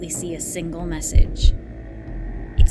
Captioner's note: heartbeat sound effect